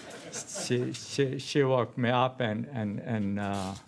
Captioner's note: laughter